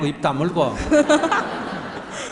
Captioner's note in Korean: 질문자와 청중 웃음